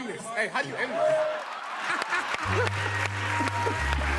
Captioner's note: laughter, applause